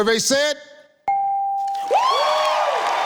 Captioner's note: computer beeps; audience cheering